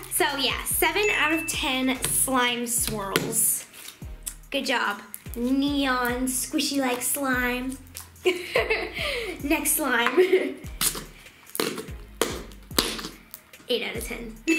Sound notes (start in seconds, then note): 8.2 laughing; 10.9 farting